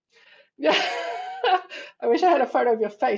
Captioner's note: laughs